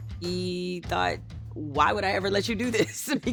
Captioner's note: laughs